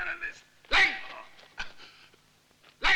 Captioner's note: Malay spoken audio